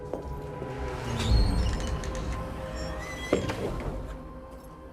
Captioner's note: door squeaks